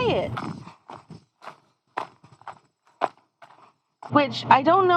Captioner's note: footsteps crunching gravel